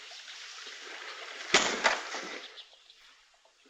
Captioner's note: slap